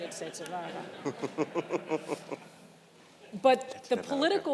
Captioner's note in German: Gelächter im Publikum